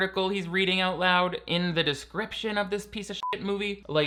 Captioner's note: beep